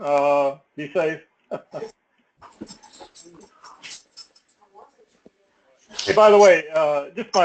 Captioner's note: laugh